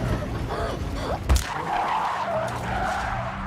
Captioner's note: loud thud; car screeches to a stop